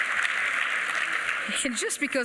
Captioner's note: applause